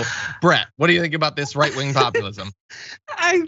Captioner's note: laugh